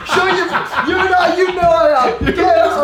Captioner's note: laughing